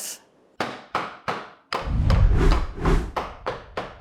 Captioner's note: hammer thudding